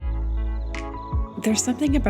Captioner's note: music, crickets chirp